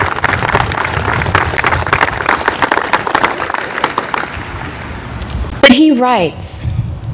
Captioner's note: applause